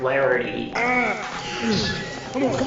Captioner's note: grunting